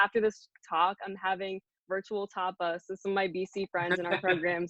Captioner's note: murmurs